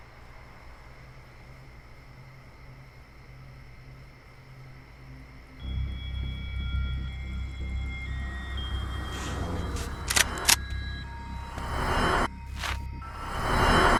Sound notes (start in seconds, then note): 10.0 gun cocks